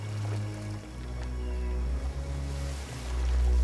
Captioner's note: ocean splashing